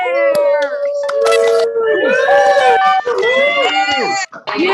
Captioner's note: cheering